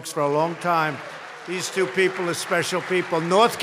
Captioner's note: applause